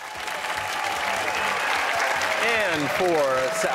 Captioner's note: cheers and applause